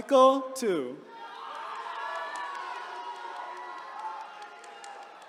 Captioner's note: attendees cheering